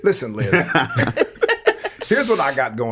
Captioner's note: all laughing